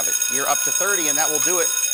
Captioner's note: bell ringing